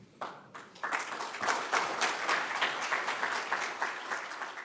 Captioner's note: crowd applause